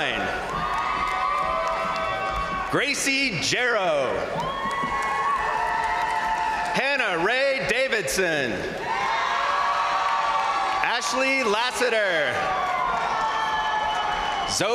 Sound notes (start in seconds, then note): 0.0 crowd applauding; 0.2 crowd cheering; 4.1 crowd applauding; 4.1 crowd cheering; 8.2 crowd cheering; 8.6 crowd applauding; 12.3 crowd cheering